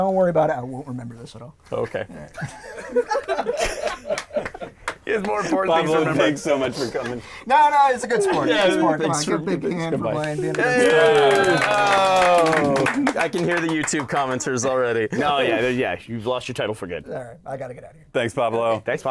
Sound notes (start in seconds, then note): 2.3 laughter; 10.5 clapping